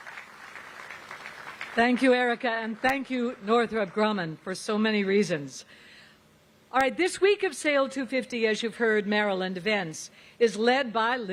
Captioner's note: applause